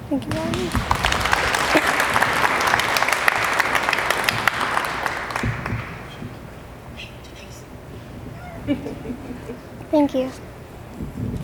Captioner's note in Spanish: Aplausos; risas fuera de la pantalla